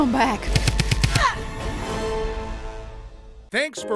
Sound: gun firing

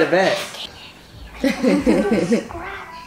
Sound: laughing

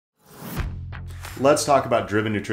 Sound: air whooshing

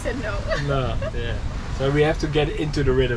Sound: laughing

